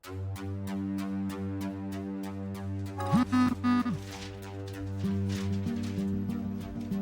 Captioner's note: phone buzzing